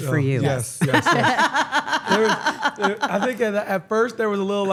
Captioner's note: laugh